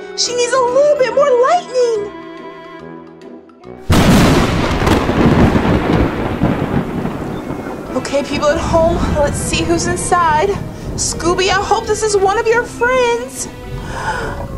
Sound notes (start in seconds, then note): 3.7 thunder crashes